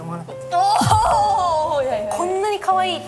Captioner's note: heart pounding